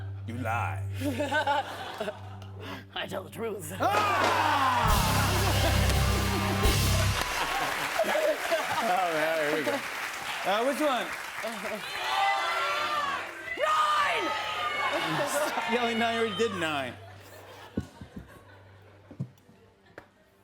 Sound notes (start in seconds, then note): 1.0 laughs; 4.2 cheers and applause